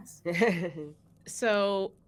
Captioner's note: laughs